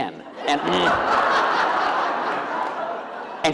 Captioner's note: laughter